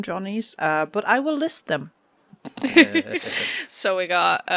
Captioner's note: laughter